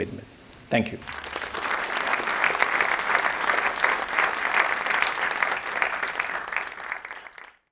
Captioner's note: applause